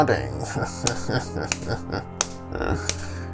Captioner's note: claps